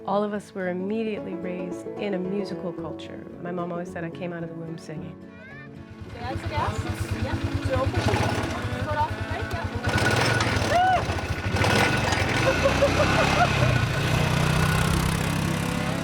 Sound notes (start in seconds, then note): 5.2 vehicle rumbling; 12.3 laughs